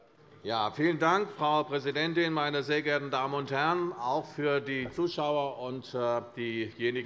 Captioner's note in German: none